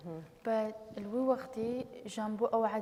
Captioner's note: speaking kurdish